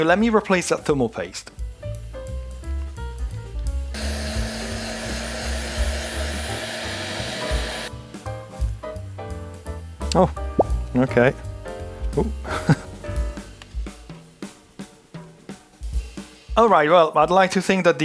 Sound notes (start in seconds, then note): 3.9 drill whirring; 4.0 upbeat music